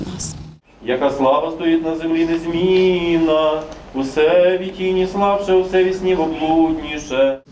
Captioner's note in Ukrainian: звучить молитва за померлих